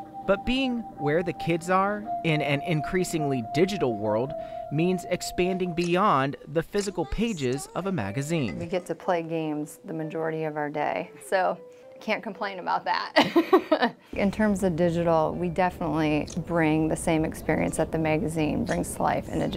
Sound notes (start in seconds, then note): 13.1 laughter